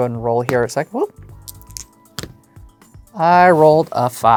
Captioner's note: dice rolling